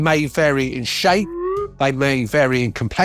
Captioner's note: whistling